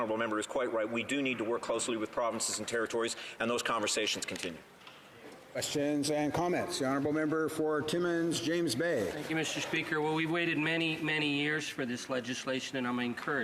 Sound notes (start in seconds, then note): none